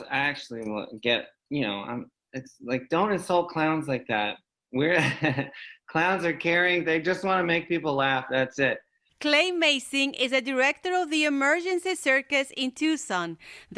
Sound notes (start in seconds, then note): 4.8 laughing